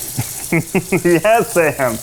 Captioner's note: laughs